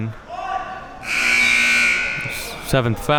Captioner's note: buzzer buzzing